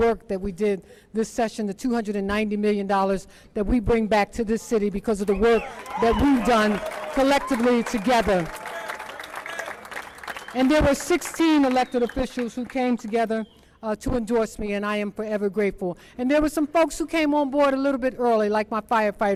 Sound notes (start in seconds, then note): 12.3 applause